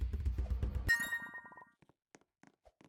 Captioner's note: ding